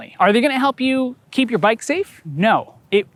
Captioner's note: none